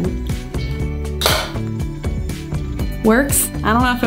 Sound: device drops

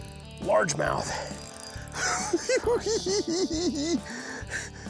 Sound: giggles

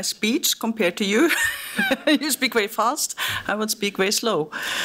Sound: laughing

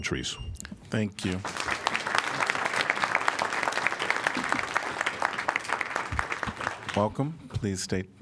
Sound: applause

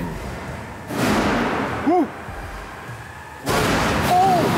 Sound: metal clanking

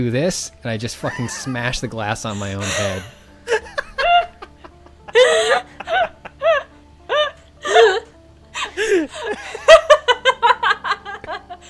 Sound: laughter

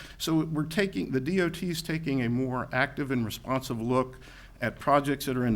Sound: none

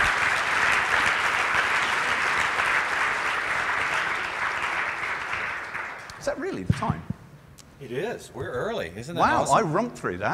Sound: applause

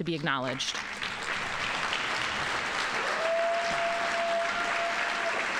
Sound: audience applauding

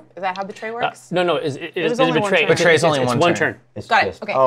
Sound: stammers

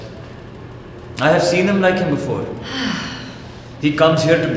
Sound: woman sighs

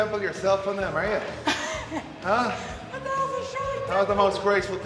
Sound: laugh

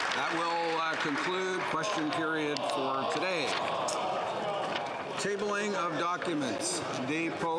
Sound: applause

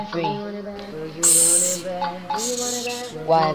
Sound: hiss

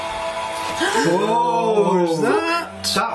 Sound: gasping

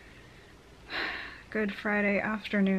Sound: sighs

